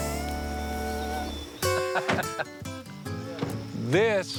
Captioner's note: laughs